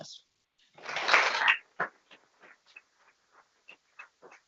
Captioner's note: people clapping